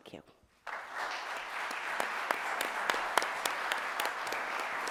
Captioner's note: audience applauding